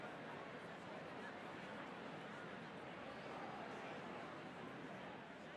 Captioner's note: attendees chattering continues